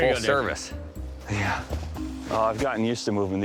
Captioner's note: panting